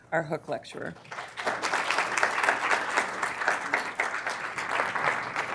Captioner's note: applause